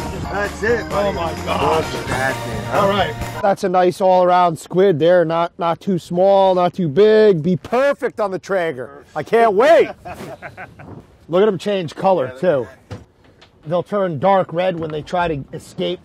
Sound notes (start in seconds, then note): 9.7 all laugh